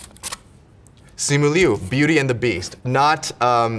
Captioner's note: paper rips